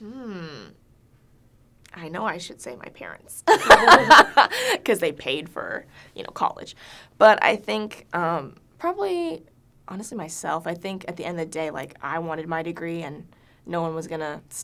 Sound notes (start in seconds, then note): 3.5 laughs